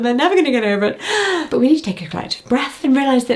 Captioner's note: gasping